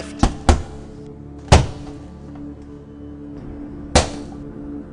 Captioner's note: thudding blows